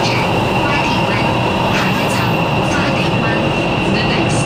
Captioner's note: Cantonese